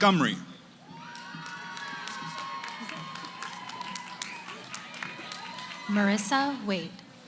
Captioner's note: cheering